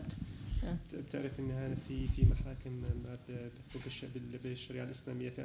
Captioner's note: speaking arabic